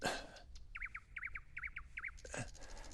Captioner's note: heavy breathing